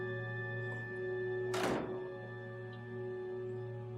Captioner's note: distant door sound